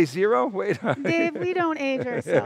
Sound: chuckles

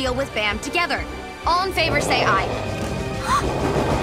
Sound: engine revs; gasps

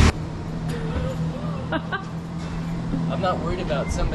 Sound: laughs

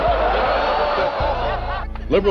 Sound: laughter, oohing

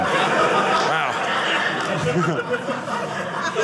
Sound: audience laughing

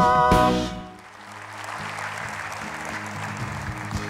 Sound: applause

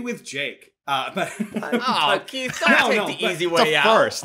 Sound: laughter

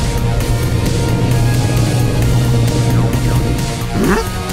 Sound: roar; roars

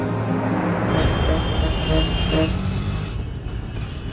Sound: traffic sounds

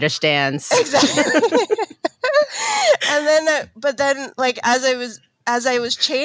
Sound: laughing

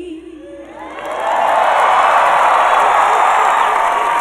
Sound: audience cheers and applause

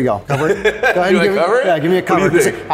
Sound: laughs

